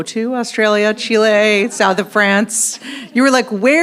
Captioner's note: audience laughs